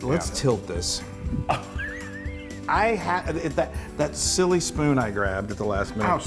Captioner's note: laugh